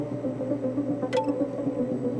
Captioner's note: computer chimes